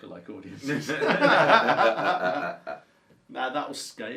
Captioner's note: laughs